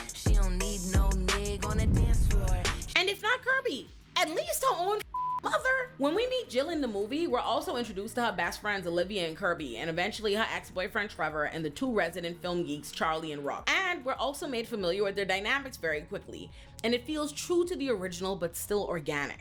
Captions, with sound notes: She don't need no nigga on a dance floor And if not Kirby, at least her own (beep) mother. When we meet Jill in the movie, we're also introduced to her best friends Olivia and Kirby and eventually her ex-boyfriend Trevor and the two resident film geeks, Charlie and Rock. And we're also made familiar with their dynamics very quickly. And it feels true to the original but still organic.